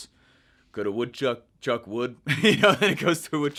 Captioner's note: laughing